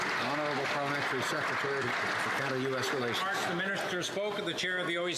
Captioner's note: some Applause